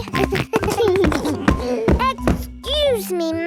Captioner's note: giggles